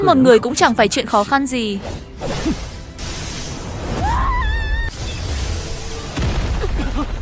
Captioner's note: shouting